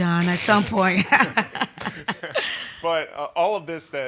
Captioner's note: laughter